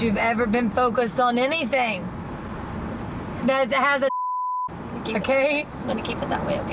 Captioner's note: beep